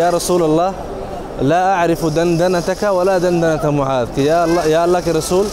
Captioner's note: Arabic